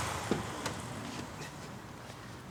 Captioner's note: sound of a car door opening